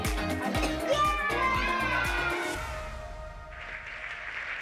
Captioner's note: children cheering; applause